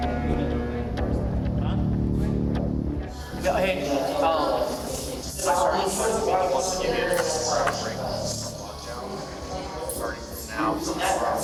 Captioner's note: door buzzes